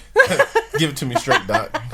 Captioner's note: laughing